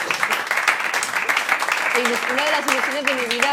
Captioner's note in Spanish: Aplausos